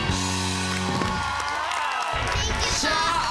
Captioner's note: crowd applauding, cheering